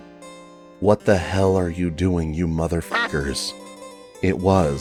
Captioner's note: quack